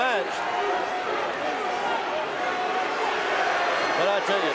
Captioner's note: audience cheering